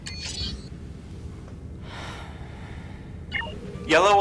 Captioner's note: sigh